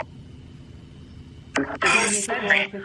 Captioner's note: radio sounds